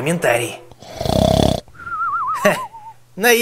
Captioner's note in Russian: храпит